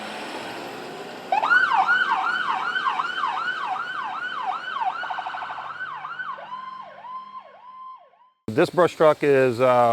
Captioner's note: sirens